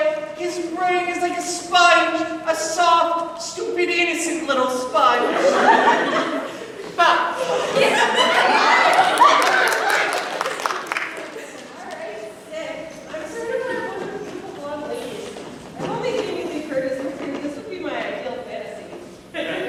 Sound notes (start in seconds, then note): 7.3 everyone gasps; 9.6 laughter